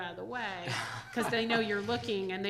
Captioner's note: chairman chuckles